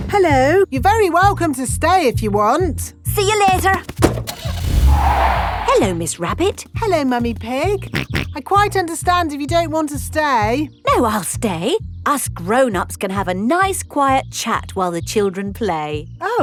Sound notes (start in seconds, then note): 4.0 car starting; 4.2 tires screeching; 7.8 snorts